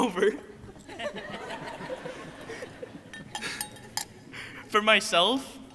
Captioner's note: crowd laughing